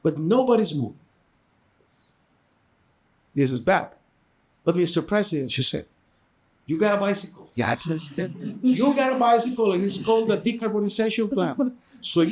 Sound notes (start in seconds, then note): 7.8 audience laughing